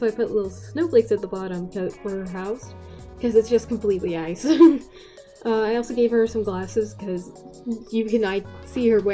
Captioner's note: laugh